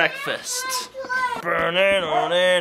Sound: kids exclaiming; vocalizes

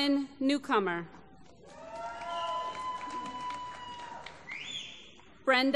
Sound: applause

